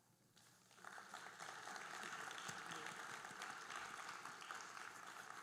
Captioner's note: audience applauding